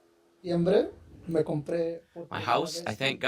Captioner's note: speaking Spanish